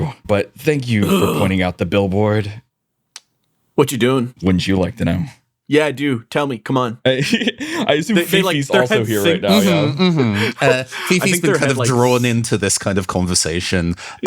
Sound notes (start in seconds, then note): 7.2 Aloha Laughs